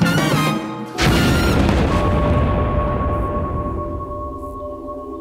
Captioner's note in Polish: dźwięk teleportacji między wymiarowej